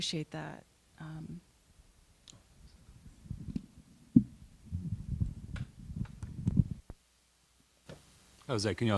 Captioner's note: silence